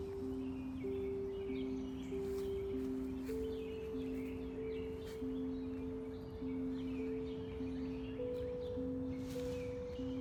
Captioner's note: sounds of outside